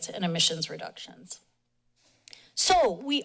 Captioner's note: pause